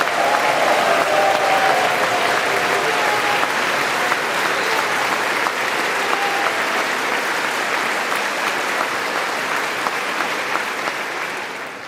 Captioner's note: applause